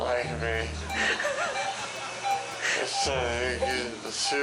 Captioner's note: laughing; whimsical music